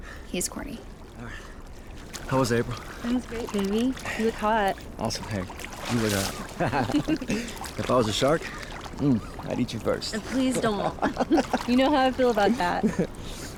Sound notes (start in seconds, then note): 6.2 water splashing; 6.4 Miguel and April laugh; 10.2 Miguel laughs